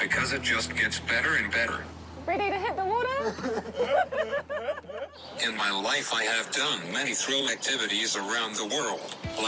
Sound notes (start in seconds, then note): 3.2 both laugh